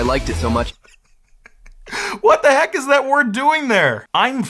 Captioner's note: laughs